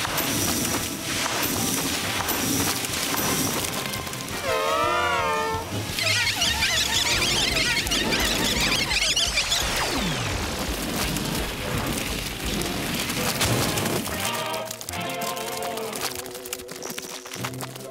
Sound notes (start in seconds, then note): 4.4 triumphant cheering; 6.1 chittering; 11.2 Applesauce splashing